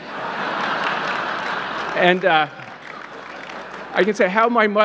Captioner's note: audience laughing